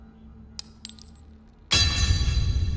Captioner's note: coin tinkling; sinister music